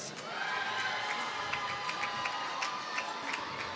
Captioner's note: applause